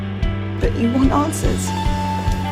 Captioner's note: voiceover